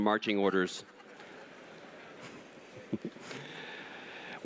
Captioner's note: laughter